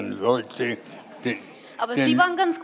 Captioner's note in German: Publikum lacht